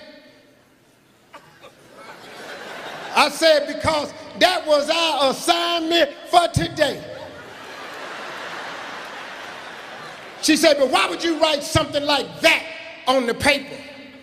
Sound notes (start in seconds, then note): 1.4 laughing; 7.4 laughing